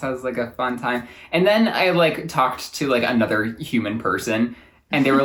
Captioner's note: laughs